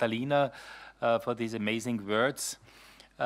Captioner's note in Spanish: Habla en inglés